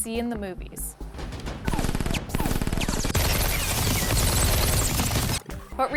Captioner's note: suppressed gun fire